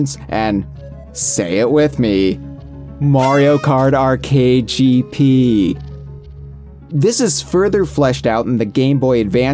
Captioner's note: party horn